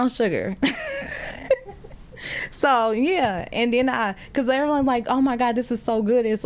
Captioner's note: laughter